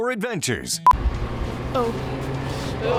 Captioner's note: sharp beep